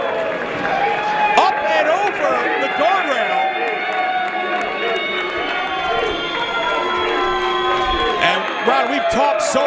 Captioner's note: applause